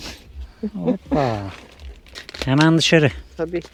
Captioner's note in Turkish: homurdanır